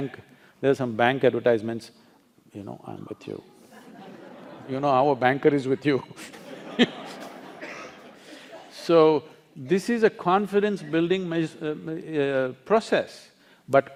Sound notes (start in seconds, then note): 2.2 laughter; 5.7 laughter